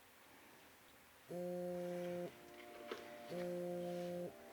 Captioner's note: phone buzzes